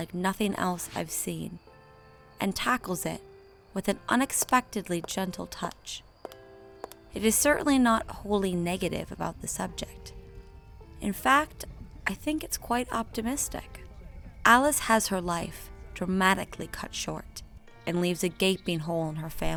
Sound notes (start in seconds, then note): none